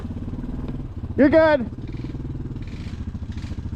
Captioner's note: shouts; slowly revs forward